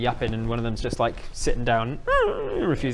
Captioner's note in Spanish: chilla